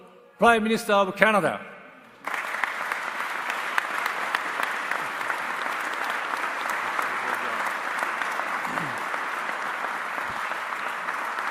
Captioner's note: applause